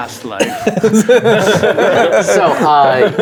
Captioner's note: players laughing